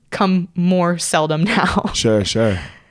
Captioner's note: laughs